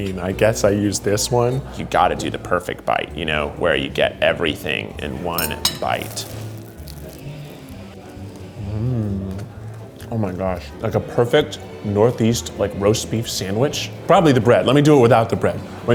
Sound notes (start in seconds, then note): 5.4 toast crunches